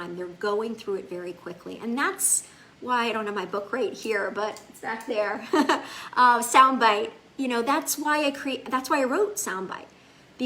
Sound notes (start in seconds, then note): 5.5 laughs